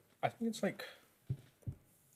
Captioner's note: knock